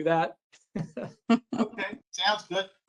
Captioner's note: laughter